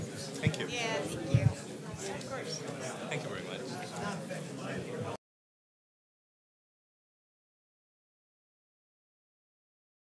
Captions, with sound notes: >> THANK YOU. >> YEAH, THANK YOU. >> THANK YOU VERY MUCH. [ SILENCE ]